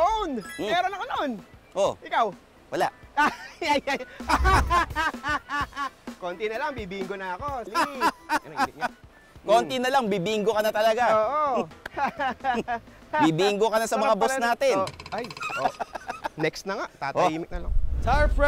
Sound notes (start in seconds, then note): 3.1 laughs; 7.6 laughs back; 11.8 laughs